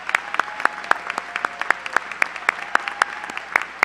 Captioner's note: applause